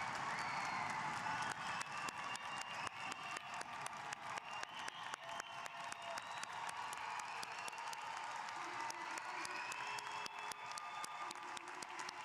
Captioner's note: cheers & applause